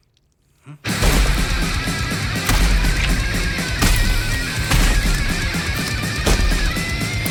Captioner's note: head thumps; aggressive heavy metal music; head thumps; blood squelches